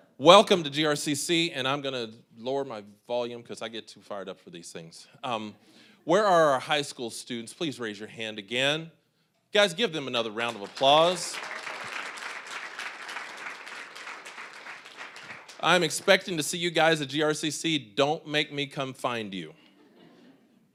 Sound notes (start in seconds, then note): 10.3 applause